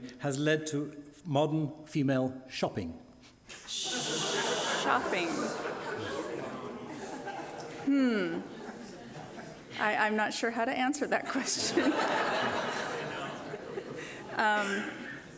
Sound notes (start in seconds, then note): 5.2 audience laughing